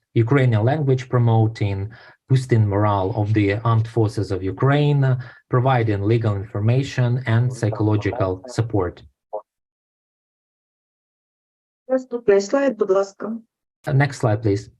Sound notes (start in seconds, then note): 11.7 foreign Language Spoken